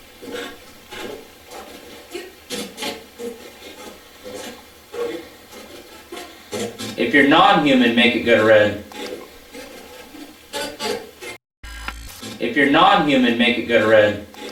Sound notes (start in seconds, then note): 0.3 static playback transmitting; 9.3 static playback transmitting; 12.1 static fizzing